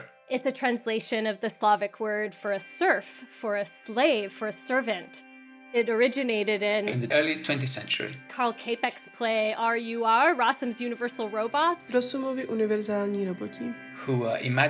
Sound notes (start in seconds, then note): 13.0 speaking Czech